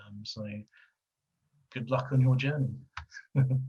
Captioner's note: laughing